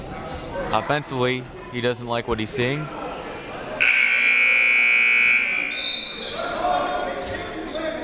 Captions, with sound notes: Offensively, he doesn't like what he's seeing. (buzzer) (whistle)